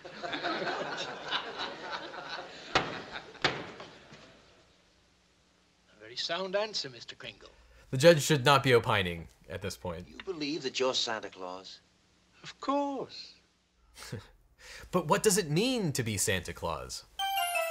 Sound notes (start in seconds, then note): 0.0 courtroom laughing; 3.9 gavel banging; 14.3 chuckling